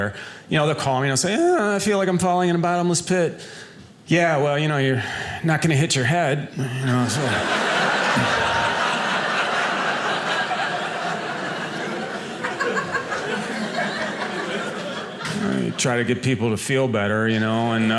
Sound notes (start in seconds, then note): 6.7 audience laughing